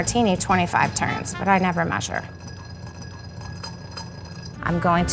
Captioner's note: glass clinking